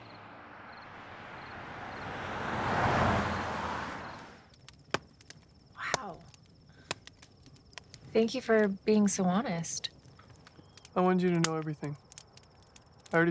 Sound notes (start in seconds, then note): 0.0 cars whooshing; 4.5 flames crackling